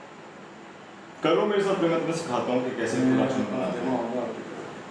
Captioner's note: in Urdu